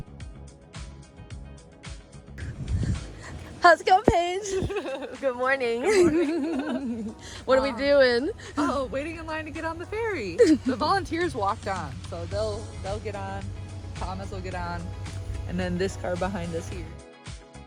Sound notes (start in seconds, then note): 4.3 laughter